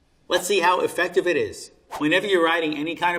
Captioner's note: air whooshing